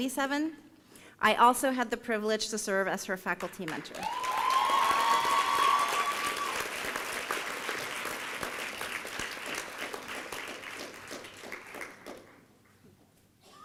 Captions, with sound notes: I also had the privilege to serve as her faculty mentor. (applause and cheering)